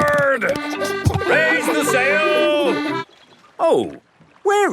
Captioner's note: kids laughing